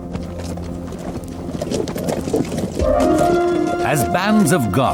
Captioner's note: horses trotting